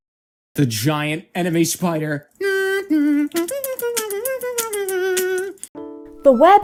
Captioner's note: starts beatboxing